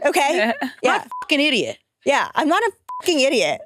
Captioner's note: participants chattering; beep; beep